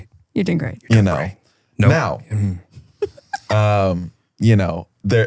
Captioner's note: giggles